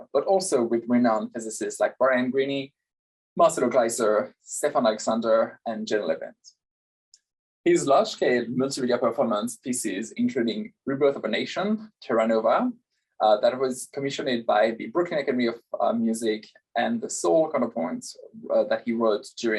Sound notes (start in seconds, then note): none